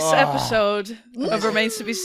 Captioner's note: gasps; squeals